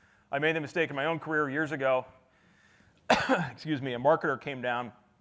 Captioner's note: coughs